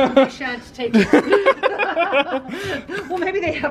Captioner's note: pair laughing